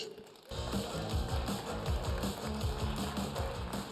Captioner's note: cheers and applause